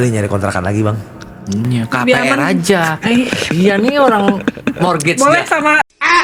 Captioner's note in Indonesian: tertawa